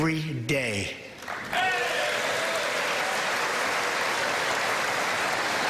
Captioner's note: applause